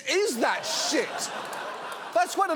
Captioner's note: audience laughs